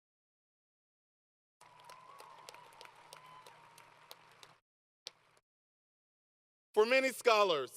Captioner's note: applause